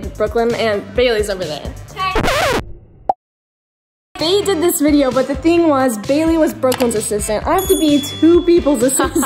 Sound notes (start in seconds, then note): 2.1 record scratch